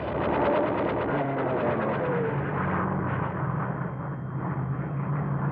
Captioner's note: plane engines roaring